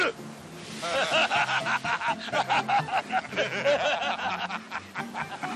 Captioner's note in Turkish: Kahkaha atarlar